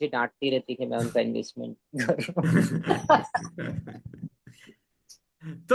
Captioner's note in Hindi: हंसी